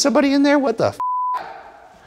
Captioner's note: beep